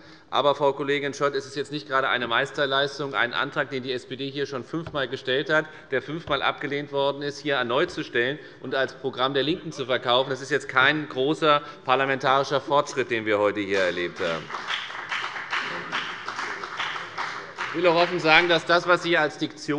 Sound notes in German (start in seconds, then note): 13.7 Beifall bei der FDP